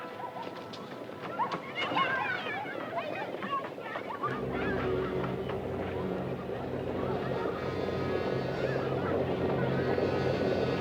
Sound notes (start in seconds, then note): 4.4 suspenseful orchestral music; 4.4 distant horses approach